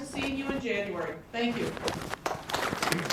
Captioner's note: applause